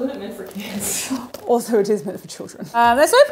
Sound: chuckle

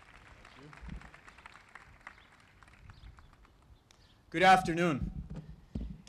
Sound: applause

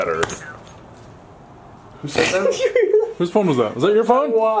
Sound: laughs

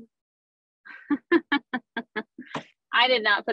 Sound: laughs

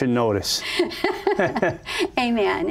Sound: laughs

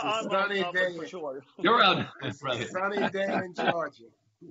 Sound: laughter

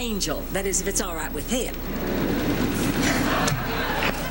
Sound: motorcycles revving

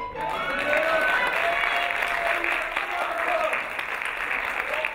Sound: crowd cheering and clapping

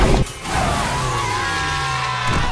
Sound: screaming

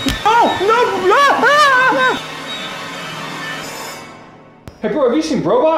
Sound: screams

